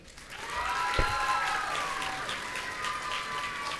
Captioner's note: audience cheering